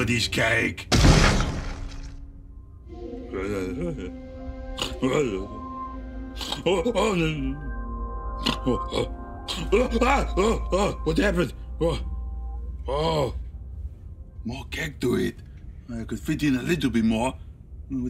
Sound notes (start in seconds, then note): 0.9 head thudding; 1.9 soft melodic music; 3.9 Ivor muttering incoherently